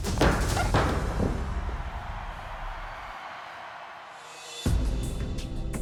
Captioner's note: crowd cheering